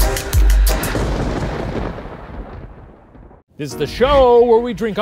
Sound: thunder clapping

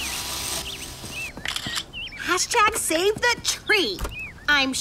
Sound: camera clicks

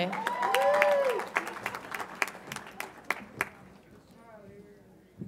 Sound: audience applauds and cheers

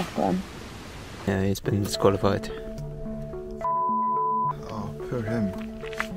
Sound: beep

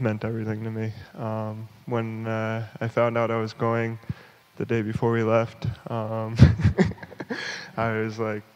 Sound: laughs

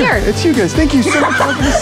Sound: laughing

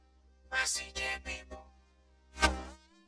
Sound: whispers

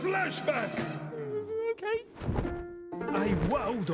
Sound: whimpering

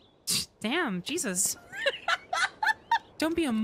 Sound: laughter

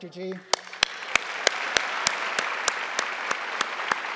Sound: crowd applauding

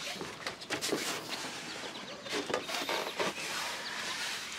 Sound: bag shuffling

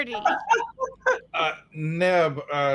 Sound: all laughing

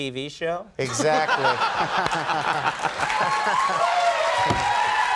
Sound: crowd laughing

